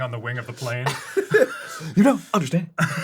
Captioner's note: boys are laughin